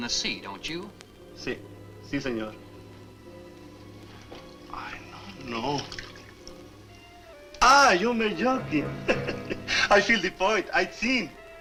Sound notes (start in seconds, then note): 7.6 speaks Spanish; 8.8 chuckles